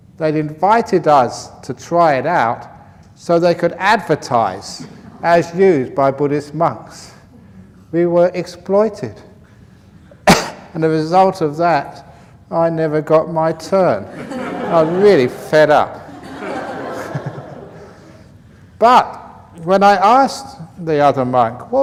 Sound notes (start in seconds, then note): 14.1 sad voice, laughter; 16.0 laughter